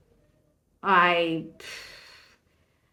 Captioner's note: sigh